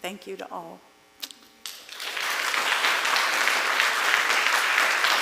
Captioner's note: applause